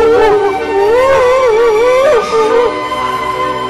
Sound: Emman crying

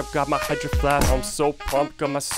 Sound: door closes

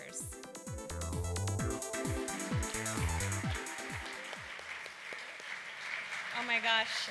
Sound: applause

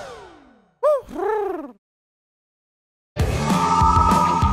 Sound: Huti hoots; rock music

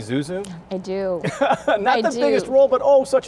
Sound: laughs

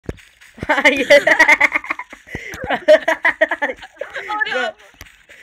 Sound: laughs and Giggles

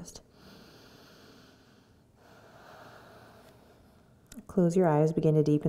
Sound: breathes deeply

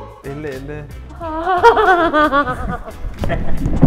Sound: anxious laugh; vicious laugh

